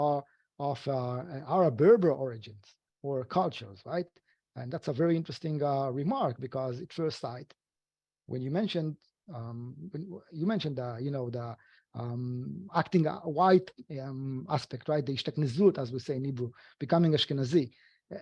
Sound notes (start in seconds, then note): 15.4 speaking foreign language